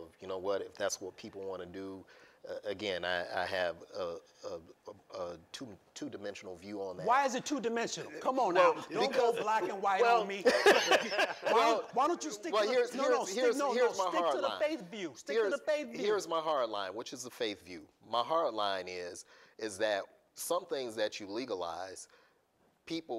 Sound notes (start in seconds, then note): 10.3 laughter